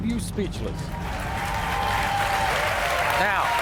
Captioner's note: audience cheering